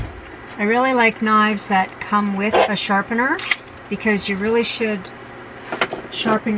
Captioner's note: bark